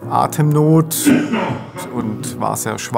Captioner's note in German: Husten